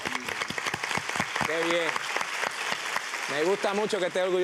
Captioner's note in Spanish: aplausos